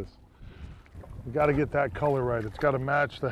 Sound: splashing

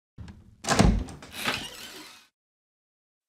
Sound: Resident Evil Door Opening

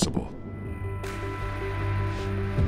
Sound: quiet boom

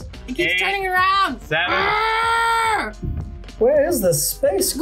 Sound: grunts

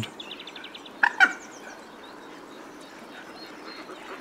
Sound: moorhen calls

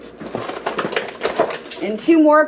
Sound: paper crumpling

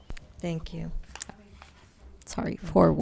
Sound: staff member speaking faintly

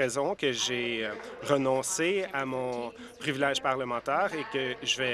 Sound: applause

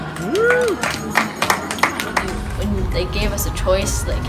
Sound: crowd cheering

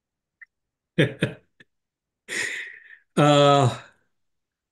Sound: laughing

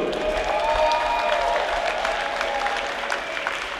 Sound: crowd cheers

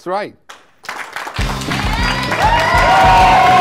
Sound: applause

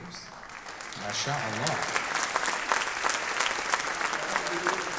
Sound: audience clapping

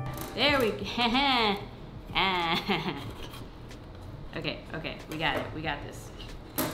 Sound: laughs

